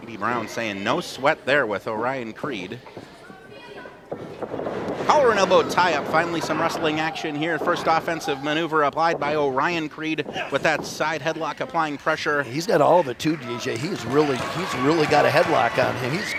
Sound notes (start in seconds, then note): 4.5 thudding